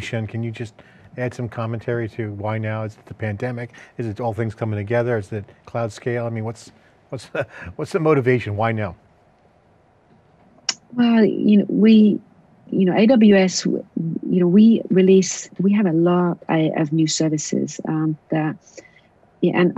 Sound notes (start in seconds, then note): 7.2 laughs